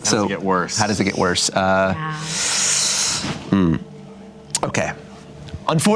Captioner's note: inhales deeply